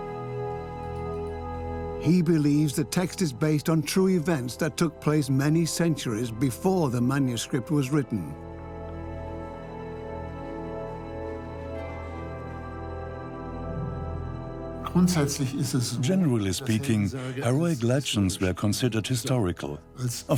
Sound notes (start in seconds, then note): 14.8 in German; 16.7 dubbed in English